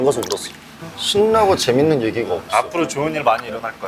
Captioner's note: pat